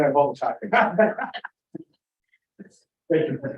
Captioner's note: laughter